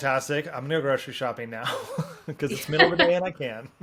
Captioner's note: laughs